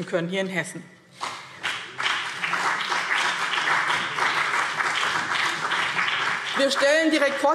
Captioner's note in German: Beifall BÜNDNIS 90/DIE GRÜNEN und CDU